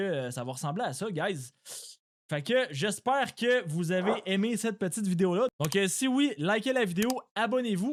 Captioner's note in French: grognement